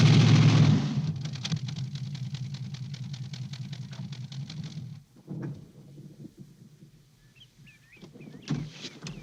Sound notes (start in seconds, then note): 5.0 engine shutting off; 5.0 thunder crashing